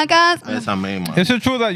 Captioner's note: non-english Speech